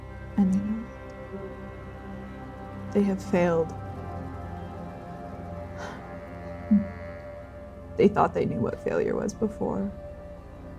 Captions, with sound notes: And they know it. They have failed. [sighing] They thought they knew what failure was before.